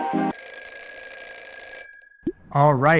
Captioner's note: bell rings